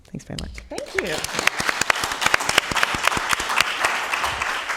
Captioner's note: audience applause